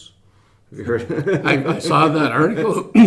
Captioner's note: laughing